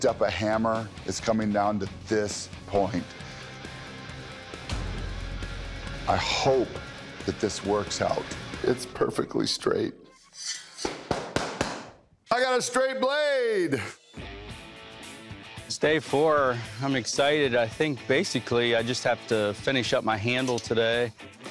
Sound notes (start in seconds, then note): 10.8 clapping